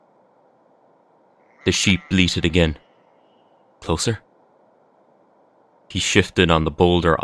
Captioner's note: sounds of sheep bleating in the distance, closer this time